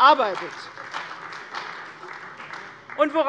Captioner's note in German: Beifall bei der CDU